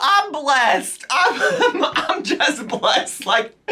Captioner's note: chuckles